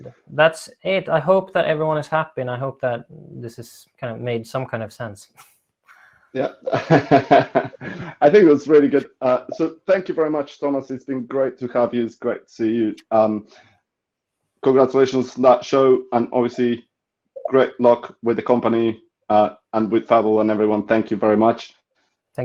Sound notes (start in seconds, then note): 6.4 laughing